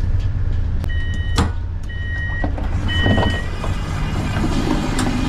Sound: train door beeping; train humming

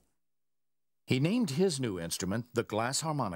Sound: voiceover

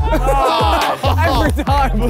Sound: laughs; group In Unison

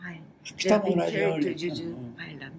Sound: foreign language

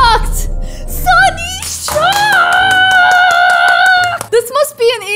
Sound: claps

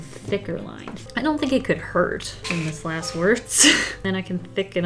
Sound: laughs

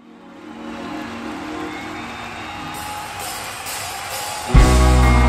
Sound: crowd cheering

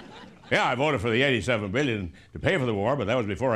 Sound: laughter

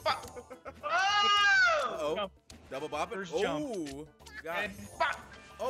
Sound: laugh

